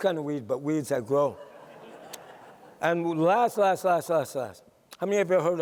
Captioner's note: laughter